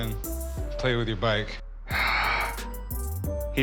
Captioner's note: sighs